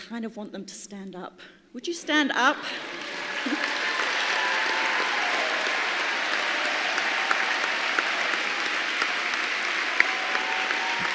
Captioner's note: applause